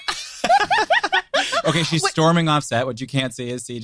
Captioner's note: group laughing